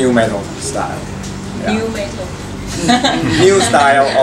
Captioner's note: laughs